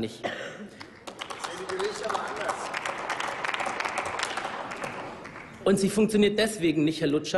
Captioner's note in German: Applaus